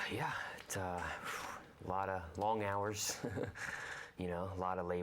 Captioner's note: risas